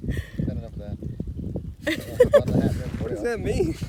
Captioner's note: laughs